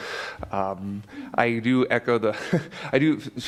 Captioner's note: laughs